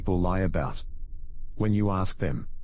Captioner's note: electrical noise